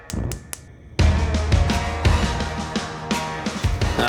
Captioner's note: stove clicks